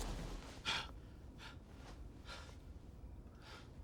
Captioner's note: panting